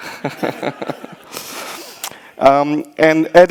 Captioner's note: audience laughs; laughs